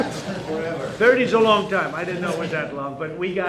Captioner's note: laughter